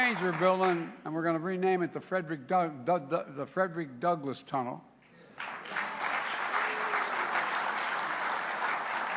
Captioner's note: applause